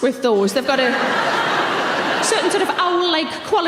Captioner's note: audience laughs